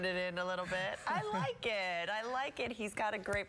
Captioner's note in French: laughter